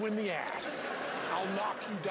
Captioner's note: laughing